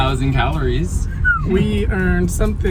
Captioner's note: whistles